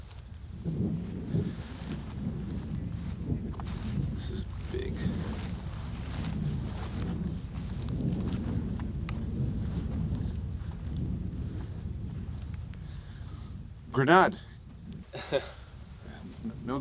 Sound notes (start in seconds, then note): 7.0 wind roaring